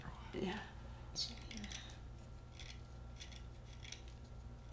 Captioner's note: scraping pencil